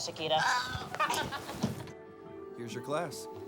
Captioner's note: girls laugh